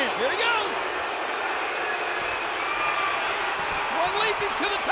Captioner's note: audience booing